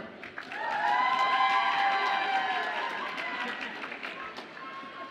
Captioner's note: audience applauds and cheers